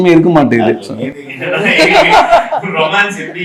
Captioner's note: laughs